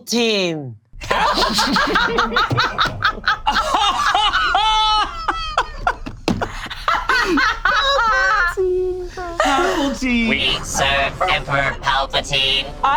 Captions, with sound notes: - Papaltine? (group laugh) - Papaltine. - Papaltine. - We serve Emperor Palpatine.